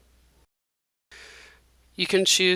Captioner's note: silence